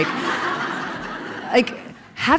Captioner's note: laughing